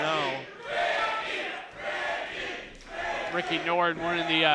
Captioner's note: crowd